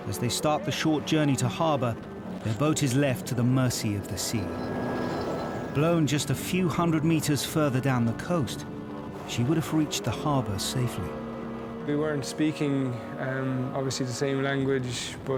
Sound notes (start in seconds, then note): 11.0 boat droning